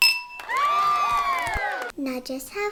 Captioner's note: cheers